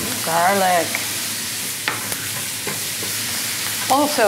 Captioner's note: pan sizzling